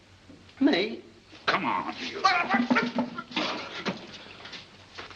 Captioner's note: grunting